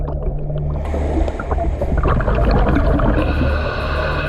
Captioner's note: water sloshing